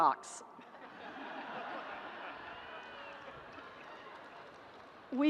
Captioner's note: audience laughs